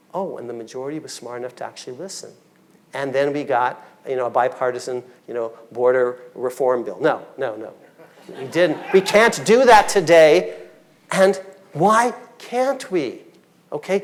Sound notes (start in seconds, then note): 8.0 audience laughing